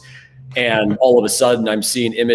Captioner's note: laughs